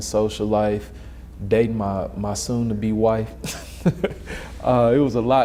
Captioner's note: laughs